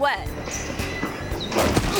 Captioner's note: shoes squeak; paper towels thud